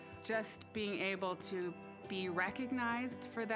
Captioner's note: none